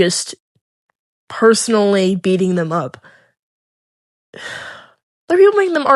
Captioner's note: sighhhhhhhhhhhhhhhhhhh